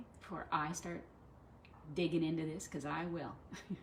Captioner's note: haha